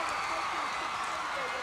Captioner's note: crowd cheering